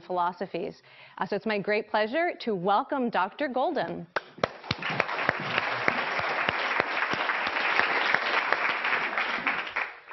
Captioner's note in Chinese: 掌聲; Applause